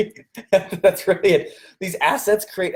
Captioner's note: laughs